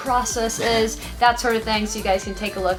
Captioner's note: laughs